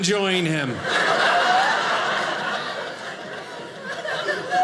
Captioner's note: audience laughing